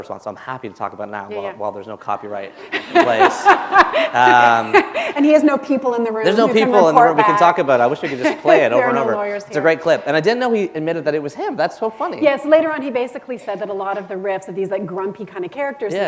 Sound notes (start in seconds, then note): 2.6 laughter